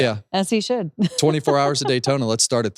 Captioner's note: chuckles